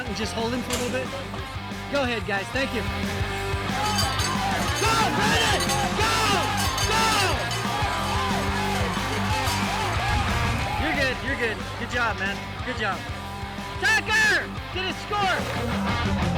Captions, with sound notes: and just hold him for a little bit? Go ahead guys, thank you. (cow bell jingling) (crowd cheering) You're good. You're good. Good job, man, good job. Tucker! Get his score!